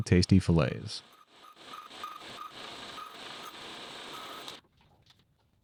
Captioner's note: machine whirring